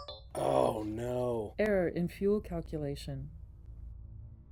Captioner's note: computer Voice